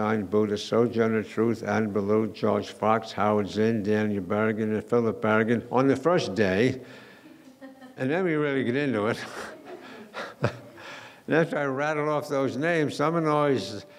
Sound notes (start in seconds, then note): 9.1 laughing